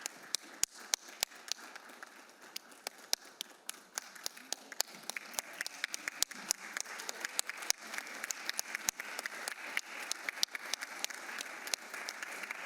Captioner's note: applause